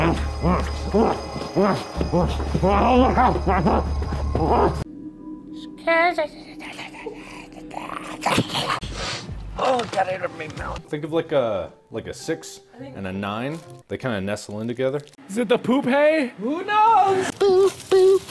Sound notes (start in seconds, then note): 5.0 almost whispering; 8.2 sniffs felt-tip pen